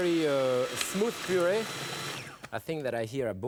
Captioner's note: blender whirring